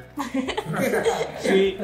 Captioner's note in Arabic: الكل يضحك